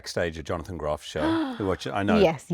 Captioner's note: Cynthia gasping